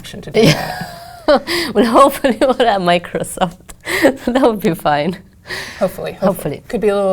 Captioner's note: laugh